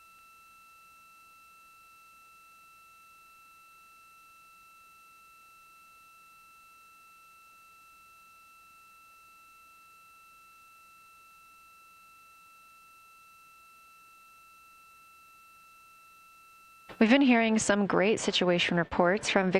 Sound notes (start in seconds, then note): 4.4 silence